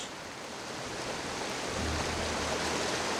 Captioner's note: water flowing; dramatic suspenseful music